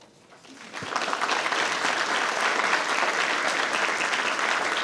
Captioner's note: attendees applauding